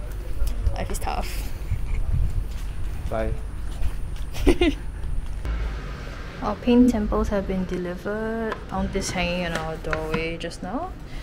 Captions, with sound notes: Life is tough. Bye. *giggles* Our paint samples have been delivered Found this hanging at our doorway just now